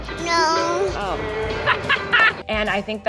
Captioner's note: laughs